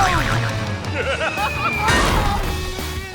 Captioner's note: laughing